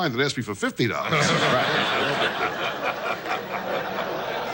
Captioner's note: audience laughs